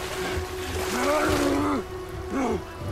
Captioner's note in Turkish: Bağırma Sesi; Bağırma